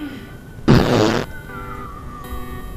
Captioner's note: farting noise